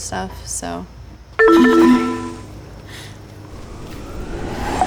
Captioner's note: chimes